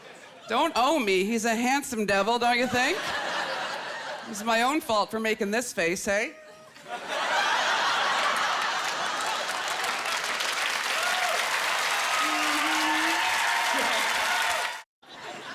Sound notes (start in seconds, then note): 6.3 laughter; 9.3 applause